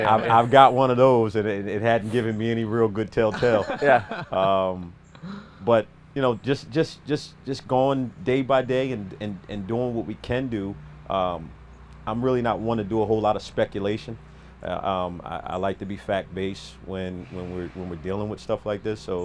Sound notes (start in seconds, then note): 3.2 camera men laugh